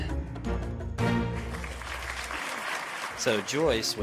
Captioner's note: applauding